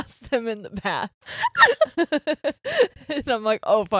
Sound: both laughing

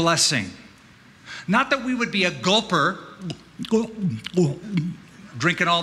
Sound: gulping noises

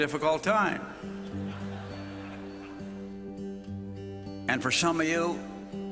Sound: laughing

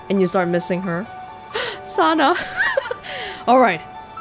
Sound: chuckles

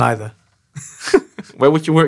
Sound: laughing

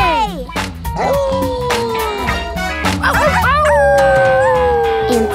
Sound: howling

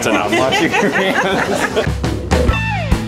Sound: both laughing

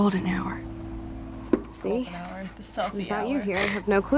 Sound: snickers

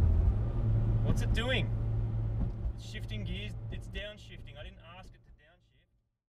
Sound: engine revving

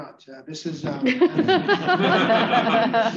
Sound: laughter

